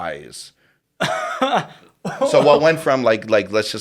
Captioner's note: laughs